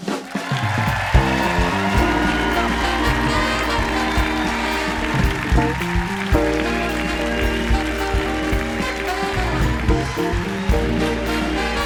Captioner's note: cheers and applause